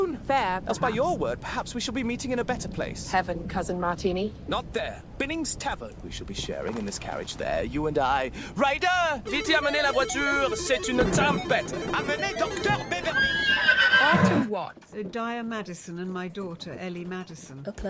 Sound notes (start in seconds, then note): 9.5 speaks in foreign language; 13.4 horses neigh